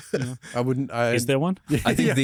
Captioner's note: laughs